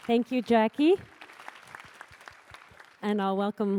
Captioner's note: applause